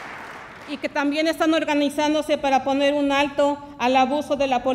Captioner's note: speaks Spanish